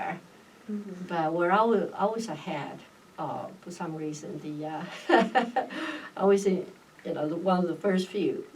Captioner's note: laughs